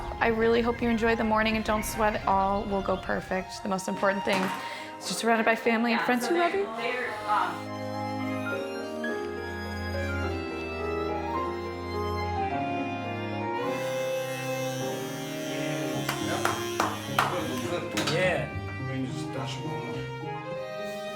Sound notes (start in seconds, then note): 7.5 subtle orchestral music; 13.7 clipper buzzing; 16.0 man clapping; 20.9 subtle orchestral music